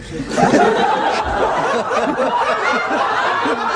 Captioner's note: laughter